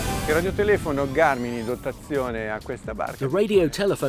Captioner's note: speaking in foreign language